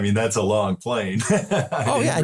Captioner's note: laugh